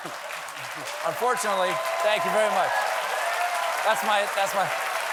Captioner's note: laughter; applause